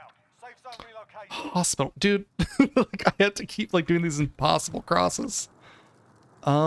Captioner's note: laughing